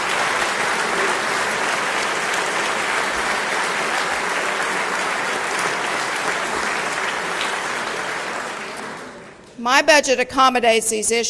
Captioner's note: applause